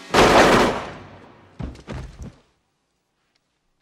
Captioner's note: fires gun